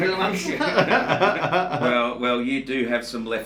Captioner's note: both men laugh